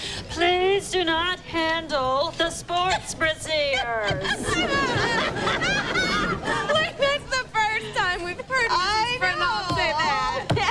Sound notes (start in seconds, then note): 3.7 laughing